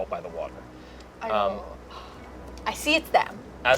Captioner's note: gasps